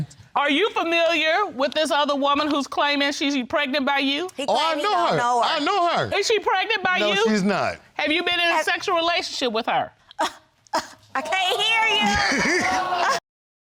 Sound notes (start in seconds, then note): 10.6 scoffs; 11.9 audience gasps